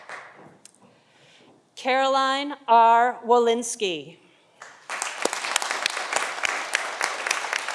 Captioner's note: audience applauding